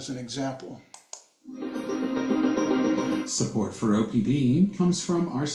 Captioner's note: radio recording playing